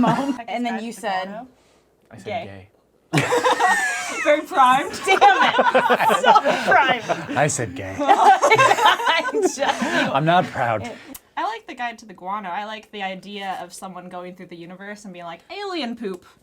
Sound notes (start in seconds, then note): 3.1 all laughing